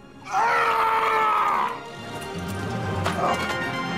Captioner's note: Richard screaming; exciting dramatic music